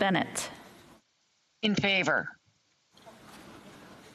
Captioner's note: speaking French